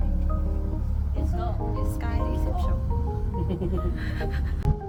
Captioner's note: hehehehe